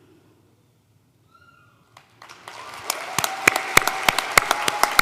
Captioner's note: applause